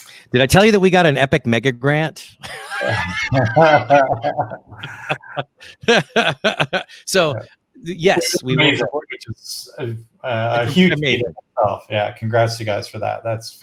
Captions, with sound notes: Did I tell you that we got an Epic mega grant? (both laughing) So yes, we moved. - Yeah, congrats to you guys for that.